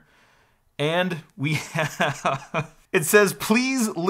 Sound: laughs

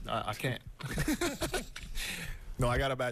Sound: laughter

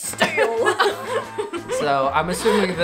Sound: laughs

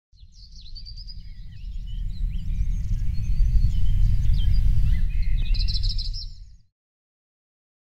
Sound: birds chirping

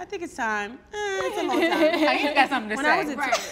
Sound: laughs

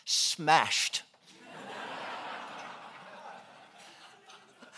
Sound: laughing

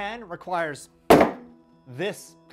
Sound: slam

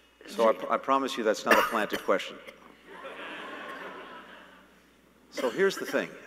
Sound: laughter

